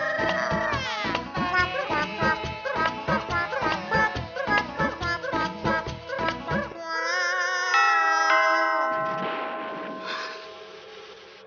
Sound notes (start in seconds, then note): 7.7 door bell rings